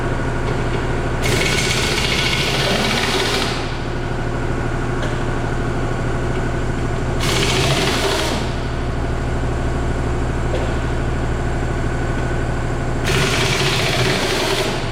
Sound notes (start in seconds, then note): 1.4 impact wrench and air compressor whirring